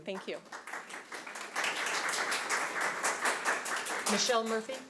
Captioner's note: applauding